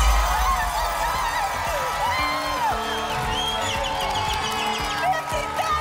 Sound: cheering and screaming

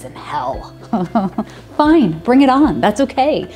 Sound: laughing

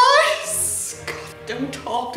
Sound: wheezes

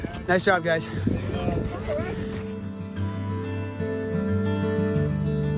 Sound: runners chattering

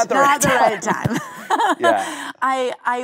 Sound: laughing

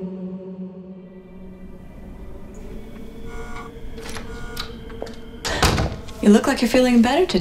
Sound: door opens

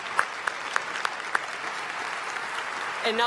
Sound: applause

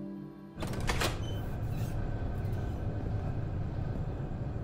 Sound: air droning softly

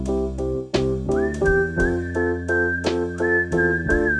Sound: whistling

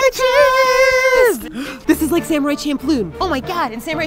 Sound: gasps

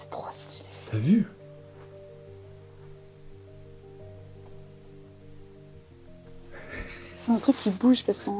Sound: laughing

